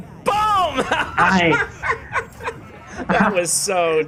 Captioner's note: laughs